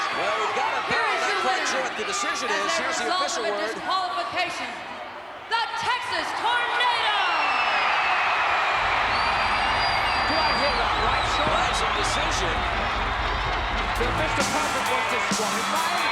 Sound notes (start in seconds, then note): 6.8 applause